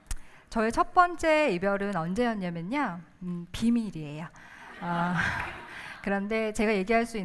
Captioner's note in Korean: 웃음